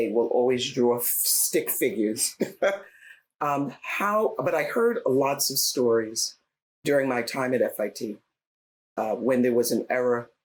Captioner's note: laughs